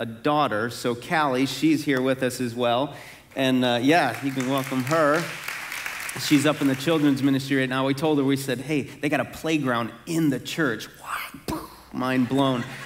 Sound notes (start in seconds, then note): 3.9 congregation clapping